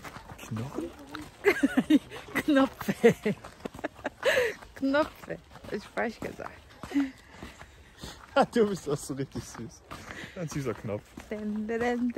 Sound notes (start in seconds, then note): 1.4 laughs